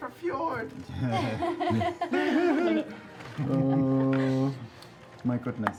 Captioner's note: laughter